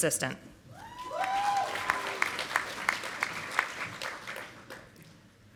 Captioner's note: audience applauding